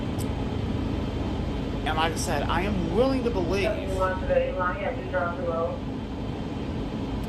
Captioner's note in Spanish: Charla indistinta